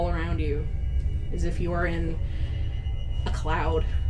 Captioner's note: takes a deep, wavering breath